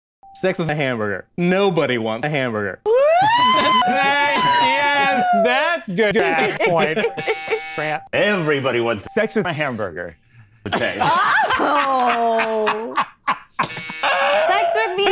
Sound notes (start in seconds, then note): 3.0 ambulance-siren-like noise; 6.0 laughing; 7.0 buzzer; 7.2 ambulance-siren-like noise; 10.6 laughing; 13.6 buzzer